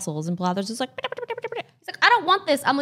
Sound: chatters

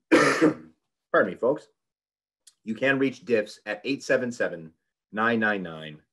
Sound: cough

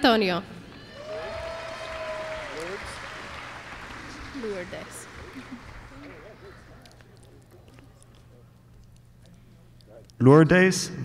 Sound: applause

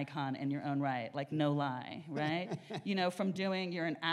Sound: laughs

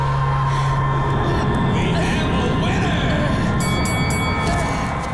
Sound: dinging

